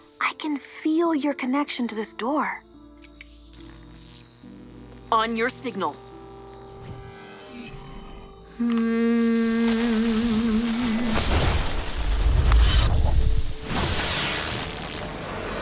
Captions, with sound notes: I can feel your connection to this Door. [magical buzzing] On your signal. [soft music] [Jae hums] [magical buzzing]